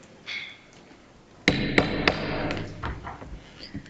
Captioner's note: gavel banging